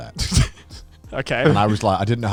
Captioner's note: snickering